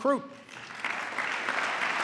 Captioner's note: applause